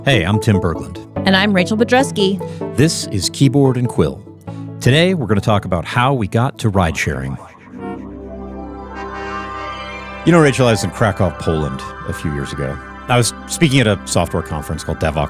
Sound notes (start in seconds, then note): 7.7 cars honking; 7.8 dramatic music